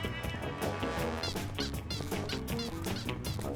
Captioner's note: spy music; squeaking